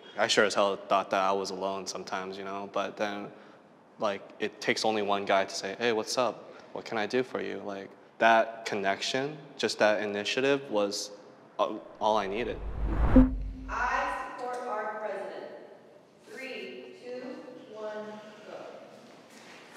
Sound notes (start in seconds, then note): 12.1 whooshes